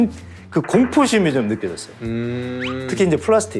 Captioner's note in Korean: 강조되는 효과음